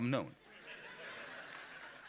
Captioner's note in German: Gelächter